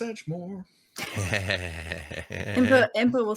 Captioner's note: laughing